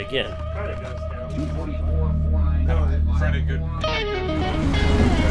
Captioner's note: radio playing; rock music